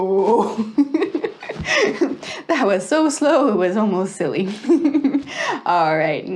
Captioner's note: laughs